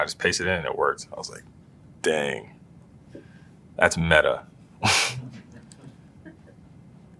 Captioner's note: laugh